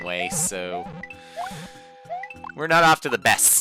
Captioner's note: breathing